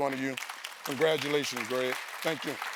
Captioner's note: applause